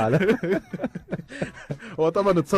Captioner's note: laughter